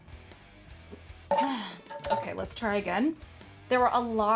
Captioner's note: sighs